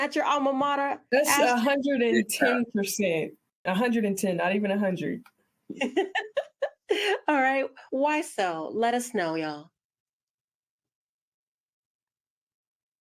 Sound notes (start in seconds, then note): 5.8 laughs